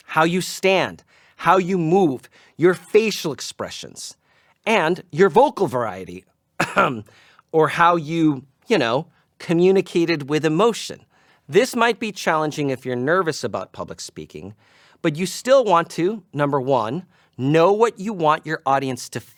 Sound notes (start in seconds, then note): 6.6 ahem